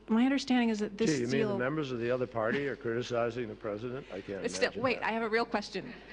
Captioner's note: laughter